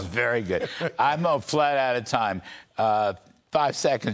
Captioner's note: laughter